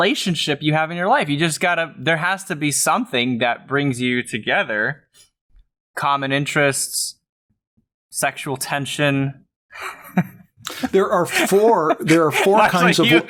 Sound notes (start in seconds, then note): 10.6 laughs